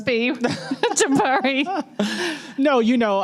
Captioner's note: laughter